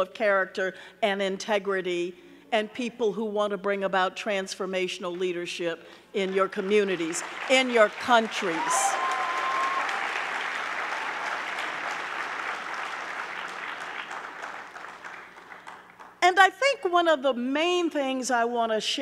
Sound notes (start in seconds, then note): 8.3 audience cheering; 8.9 audience clapping